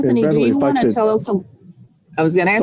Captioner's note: mumbling